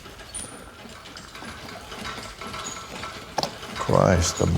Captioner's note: cranking